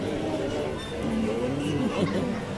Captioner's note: laughter